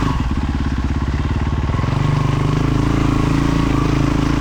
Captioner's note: engine revving